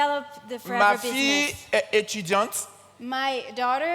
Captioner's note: continues in French